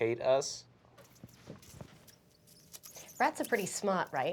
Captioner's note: sound of rat squeaks